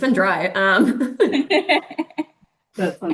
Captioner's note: laughing